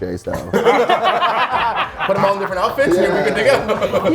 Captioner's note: laugh